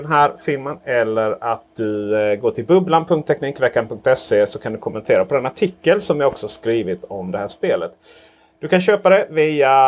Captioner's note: in Swedish